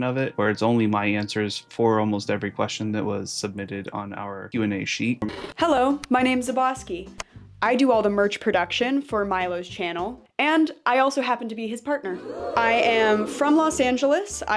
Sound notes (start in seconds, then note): 5.2 TV noise